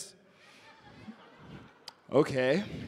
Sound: audience laughing

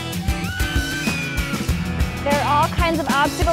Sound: shreaks

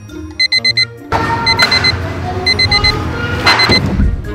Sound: alarm beeping

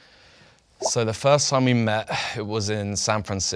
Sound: text bloops

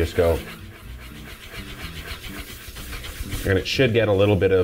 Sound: friction rubbing

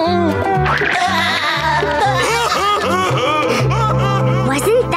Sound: laughing

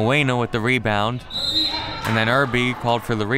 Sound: whistle

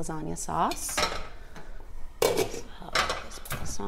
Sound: pots clanging

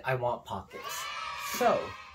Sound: children cheering

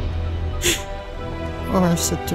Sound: gasps

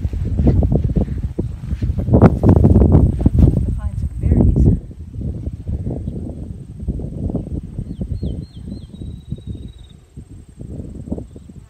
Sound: sound of wind blowing

